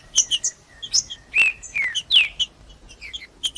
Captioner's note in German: trinca ferro cantando